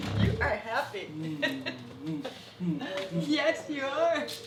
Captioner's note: laughing